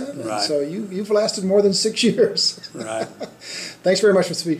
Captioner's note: laughs